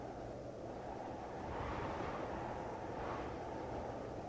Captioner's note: wind humming